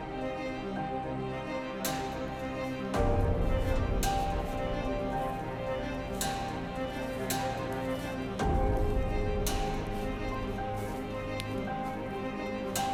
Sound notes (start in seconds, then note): 2.4 footsteps pattering; 5.0 tense music continues